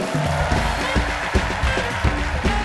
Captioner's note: applause